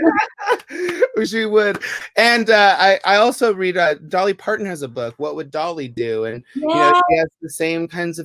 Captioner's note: laughter!